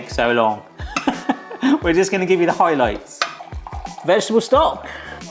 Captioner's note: chuckles